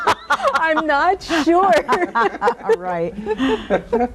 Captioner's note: laughs happily